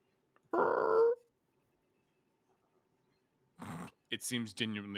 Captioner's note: grunts